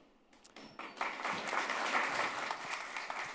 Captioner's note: audience applauds